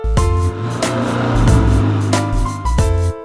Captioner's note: engine revs